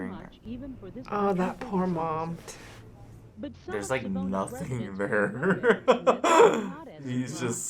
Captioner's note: laughs